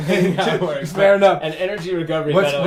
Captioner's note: laughs